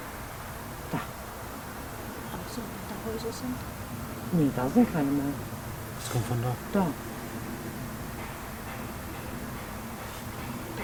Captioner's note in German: Holzschlagen